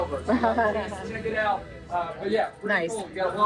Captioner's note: laughing